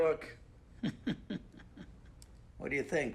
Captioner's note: chuckles